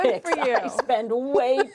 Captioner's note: laughter